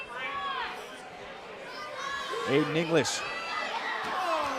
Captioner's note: crowd chatter